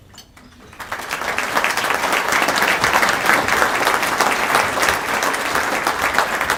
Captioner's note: applause